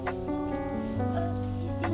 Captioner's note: squirrel chirping